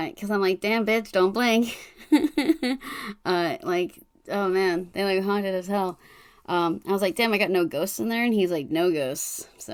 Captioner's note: laughs